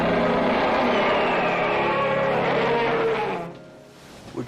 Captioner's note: T-rex roaring